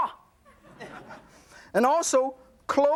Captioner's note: audience laughs